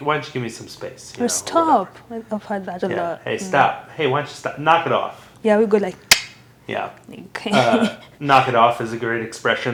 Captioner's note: mouth sound